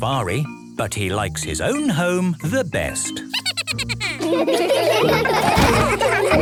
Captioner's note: Steven giggles